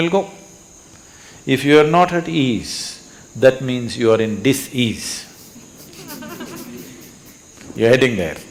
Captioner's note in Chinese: 笑聲